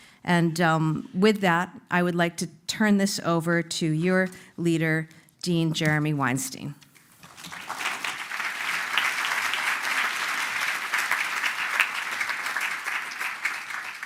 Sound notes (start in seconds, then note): 7.2 applause